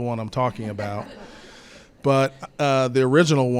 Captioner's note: attendees chuckle